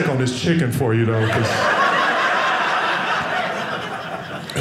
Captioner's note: audience laughing